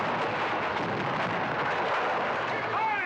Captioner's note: cannons firing; wall crashing in